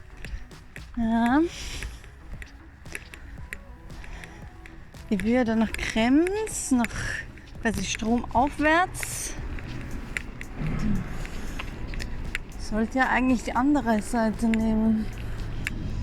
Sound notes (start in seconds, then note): 1.8 clicking of walking sticks; 9.5 traffic